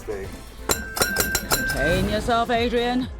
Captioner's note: bell dings